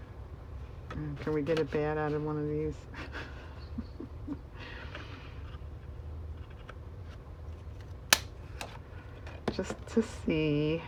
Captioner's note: laughs